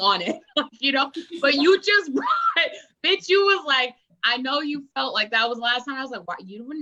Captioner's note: laughs